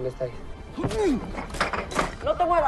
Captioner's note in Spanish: Quejido